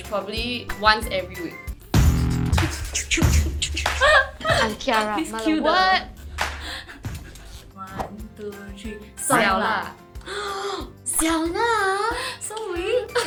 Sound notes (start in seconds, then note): 10.2 gasp